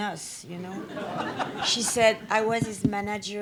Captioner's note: audience laughs